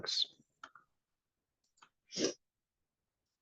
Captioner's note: mouse clicks